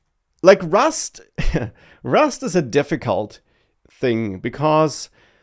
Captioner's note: laughs